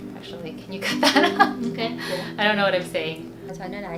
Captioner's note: laughs